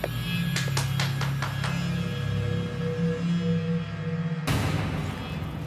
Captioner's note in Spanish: palmadas